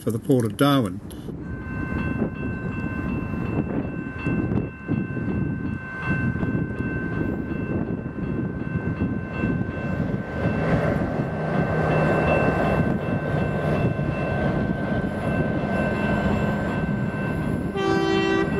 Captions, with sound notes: Port of Darwin. [Train Horn - faint] [ Crossing bell ringing ]